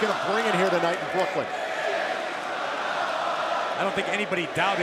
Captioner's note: crowd cheering